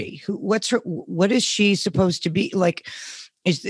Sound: none

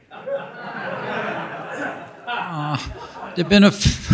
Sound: audience laughing

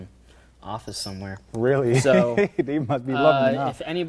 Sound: laughing

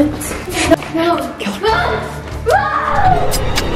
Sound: shouts

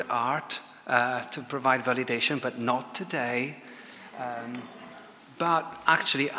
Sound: audience laughs

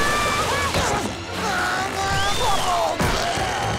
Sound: screaming; grunting

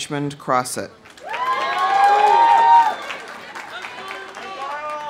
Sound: audience applauding; audience cheering

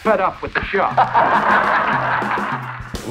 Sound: laughing

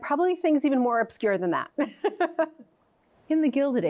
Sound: laughs

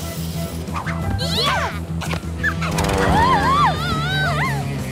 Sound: screaming

